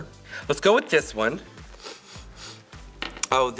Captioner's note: sniffing